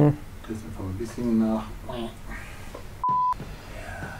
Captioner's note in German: Aus dem Off